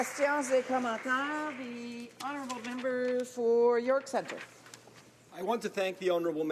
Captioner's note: applause